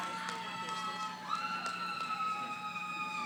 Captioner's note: yelling